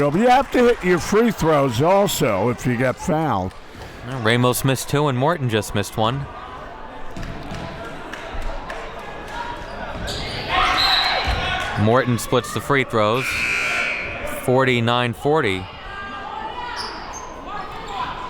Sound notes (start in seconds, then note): 10.7 whistle blows; 13.2 buzzer buzzes